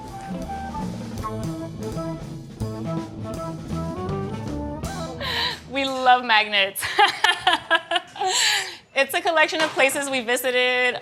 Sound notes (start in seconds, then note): 2.4 bright upbeat music; 6.8 laughs